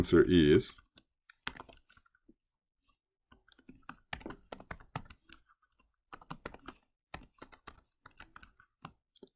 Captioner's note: typing